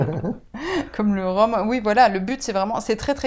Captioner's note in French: rire